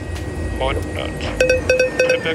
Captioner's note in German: Signaltöne